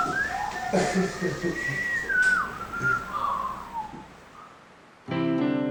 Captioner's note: whistles